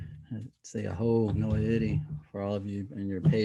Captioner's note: speaking in Native language